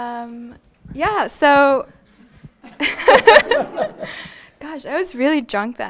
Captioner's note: laughing